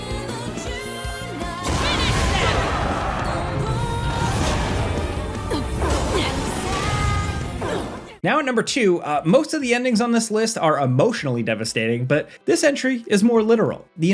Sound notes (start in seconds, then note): 1.6 dramatic music; 1.6 laser blasting